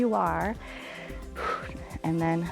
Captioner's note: inhales and exhales